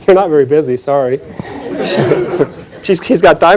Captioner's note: chuckling